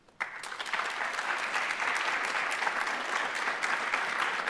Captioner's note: audience clapping